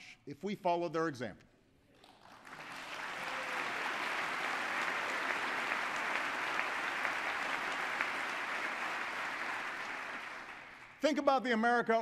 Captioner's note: applause